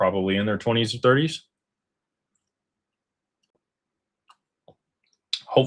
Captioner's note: none